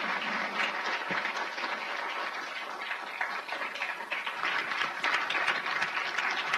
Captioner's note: applause